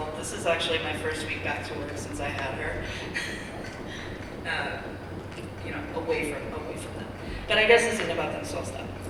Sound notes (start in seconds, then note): 2.9 laughs